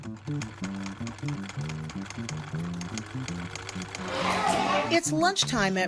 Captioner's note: sewing machine whirring